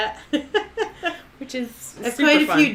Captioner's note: laughing